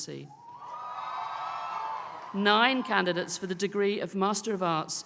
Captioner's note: applause